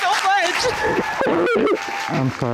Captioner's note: audience cheering; crying